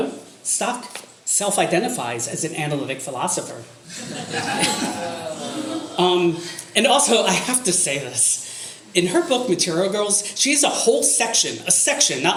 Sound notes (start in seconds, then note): 3.9 audience laughter